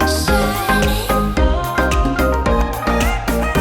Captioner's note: laugh